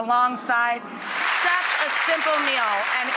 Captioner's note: audience applauding